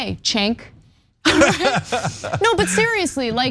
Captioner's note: laugh